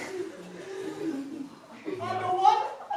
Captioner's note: heavy. breathing